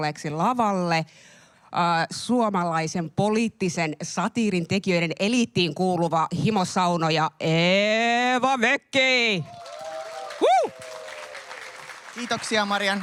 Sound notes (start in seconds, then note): 9.4 aplodeja